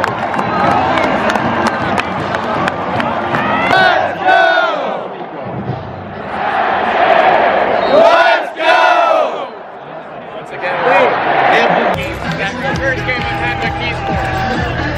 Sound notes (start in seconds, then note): 3.1 let's Go chant